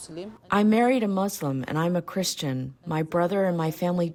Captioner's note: through translator